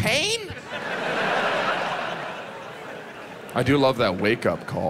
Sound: audience laughs

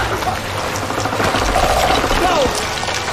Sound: centipede growling louder

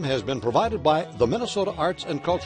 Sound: voiceover

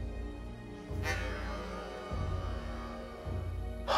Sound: inhales

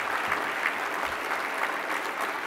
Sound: applause

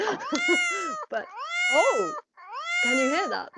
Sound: cat miaowing

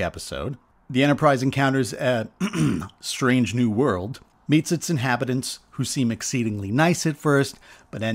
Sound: ahem

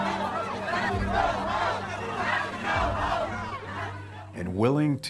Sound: crowd chanting

